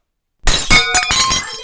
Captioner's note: krasch